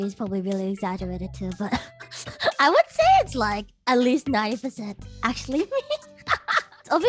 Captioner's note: laughs